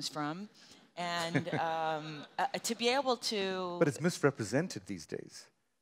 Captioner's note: audience laughter